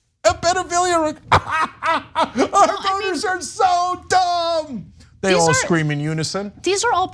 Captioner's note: laugh